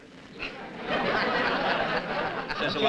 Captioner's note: laughter